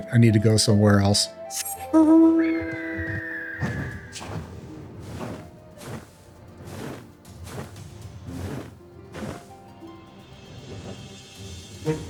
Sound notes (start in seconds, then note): 2.7 door creaks open